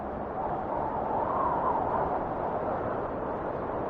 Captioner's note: wind whistling